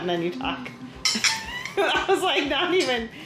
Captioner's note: laughing